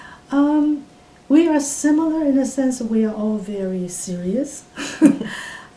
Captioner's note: laughs